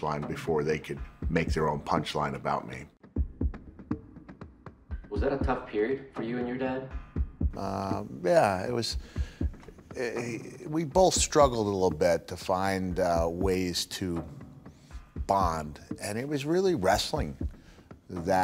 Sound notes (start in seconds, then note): 9.8 stammers